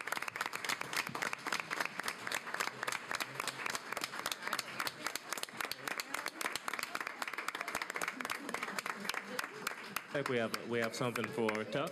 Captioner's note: applause